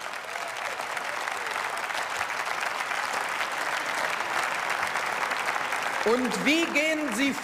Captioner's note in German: Beifall